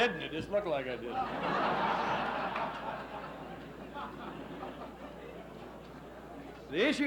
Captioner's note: laughs